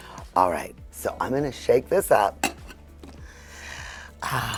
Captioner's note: sighs